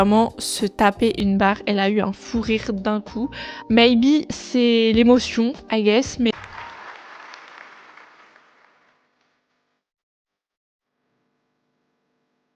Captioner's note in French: applaudissements